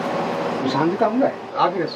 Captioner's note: boil